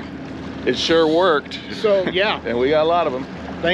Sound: chuckling

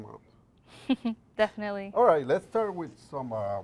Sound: laughs

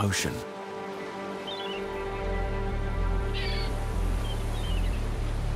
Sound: seagulls squawk

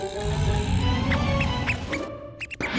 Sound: mouse squeaks

